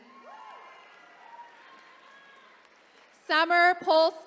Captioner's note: attendees cheering